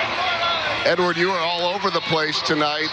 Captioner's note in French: speaking spanish